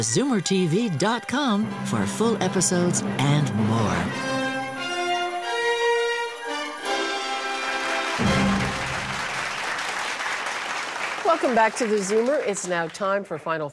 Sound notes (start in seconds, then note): 3.6 audience clapping